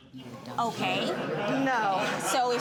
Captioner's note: audience laughing